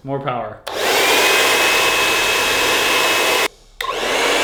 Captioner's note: blow dryer blowing